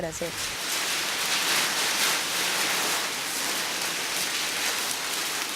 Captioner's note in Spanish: Sonidos de papeles de periódico doblándose y cortándose